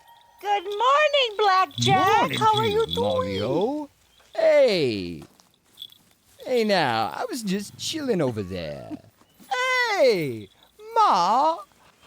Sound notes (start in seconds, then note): 0.0 cat bell jingles; 10.0 Mrs. McDonald chuckles